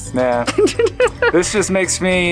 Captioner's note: laughs